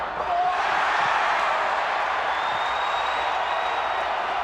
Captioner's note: crowd cheering